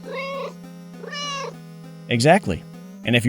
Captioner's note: meow